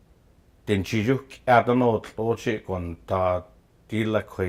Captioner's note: speaking Gwich'in